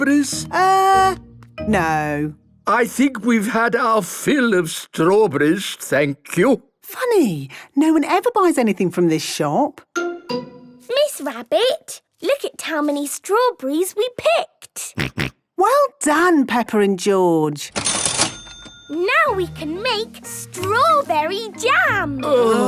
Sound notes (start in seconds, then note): 17.8 till rings; 22.3 groaning